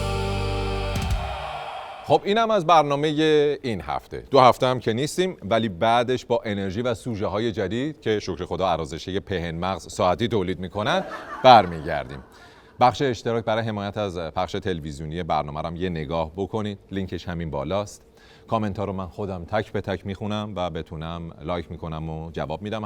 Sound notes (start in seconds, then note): 0.1 applause; 10.8 laughter